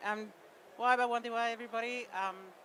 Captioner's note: speaks indigenous language